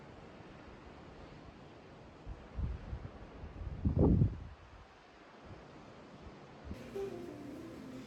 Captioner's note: confused